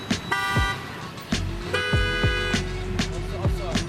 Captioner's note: beeping